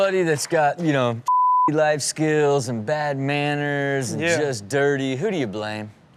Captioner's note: beep